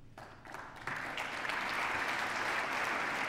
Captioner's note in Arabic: تصفيق